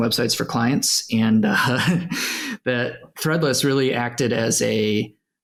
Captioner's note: laughs